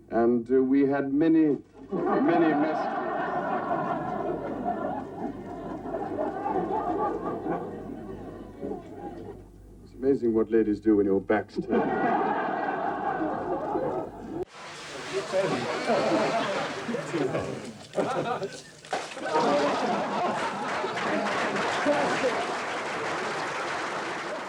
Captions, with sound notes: And we had many, many messages. (laughter) It's amazing what ladies do when your back's turned. (laughter) (chatter) (smash) (laughter) (applause)